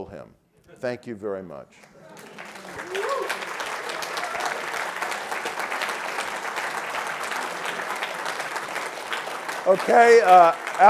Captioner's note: applause